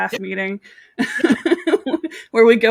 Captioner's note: laughs